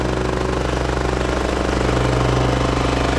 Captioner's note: rattling